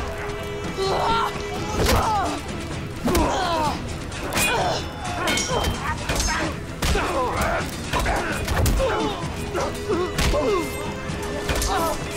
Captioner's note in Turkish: Dövüş Sesleri